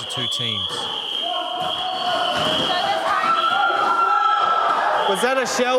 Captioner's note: whistle blows again, more shouting